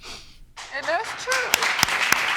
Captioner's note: audience clapping